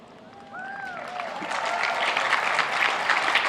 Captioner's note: applauding